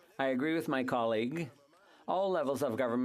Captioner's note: speaking French